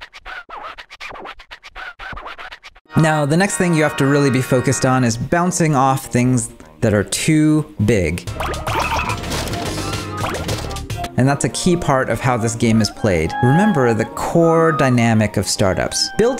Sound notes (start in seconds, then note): 0.0 music record scratching; 8.4 bubbles popping